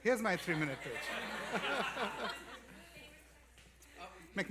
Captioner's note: laughter